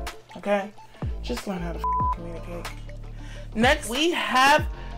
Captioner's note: beep